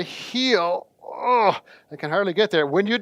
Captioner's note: grunts